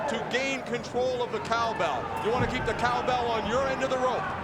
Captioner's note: none